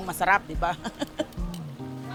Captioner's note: laughs